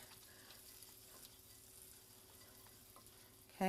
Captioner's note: sizzling